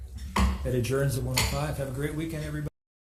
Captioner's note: gavel hits